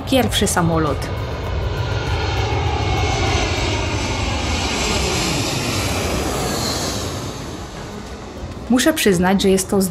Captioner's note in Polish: dźwięk silnika